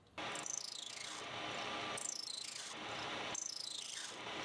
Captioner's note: machine whirring continues